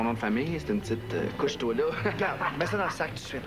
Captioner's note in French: Rire